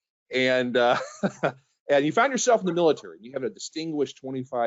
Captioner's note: chuckles